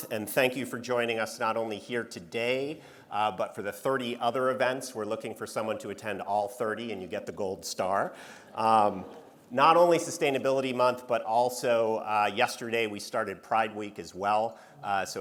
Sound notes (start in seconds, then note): 8.4 audience laughing